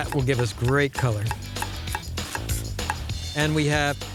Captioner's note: chopping